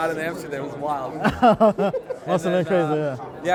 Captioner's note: laughs